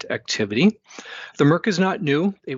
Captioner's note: inhales